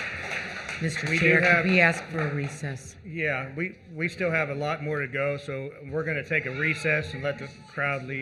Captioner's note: applause